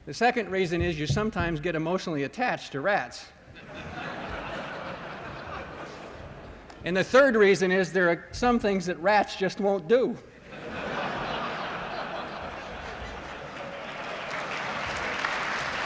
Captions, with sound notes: The second reason is you sometimes get emotionally attached to rats. [LAUGHTER] And the third reason is there are some things that rats just won't do. [LAUGHTER] [APPLAUSE]